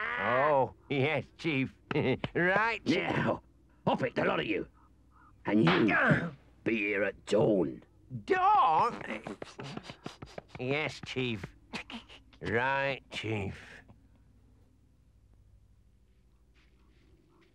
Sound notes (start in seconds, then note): 0.0 Chief Weasel cackles; 5.6 staff smacks; 9.3 staff thumps rapidly